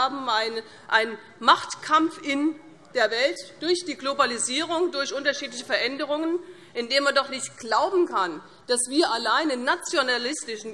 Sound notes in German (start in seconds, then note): none